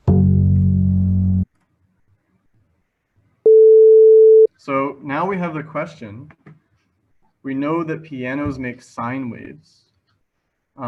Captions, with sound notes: (bass note plays) (beeping) So now, we have a question. We know that pianos make sine waves,